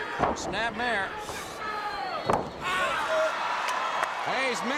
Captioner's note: crowd cheering